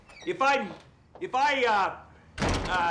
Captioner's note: door opens and closes